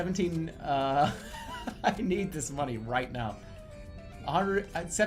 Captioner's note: laughing in frustration